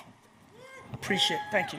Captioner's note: scattered audience members cheer